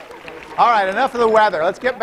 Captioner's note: applause; laughter